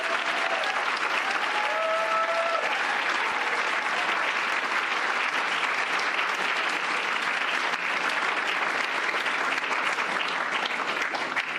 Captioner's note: applause